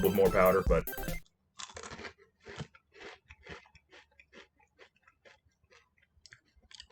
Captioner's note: crunch sounds